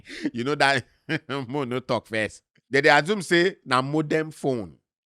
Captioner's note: chuckles